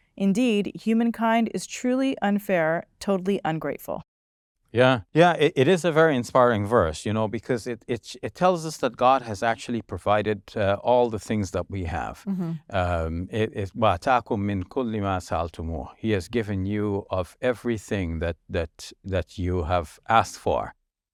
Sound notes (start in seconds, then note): 13.6 speaking foreign language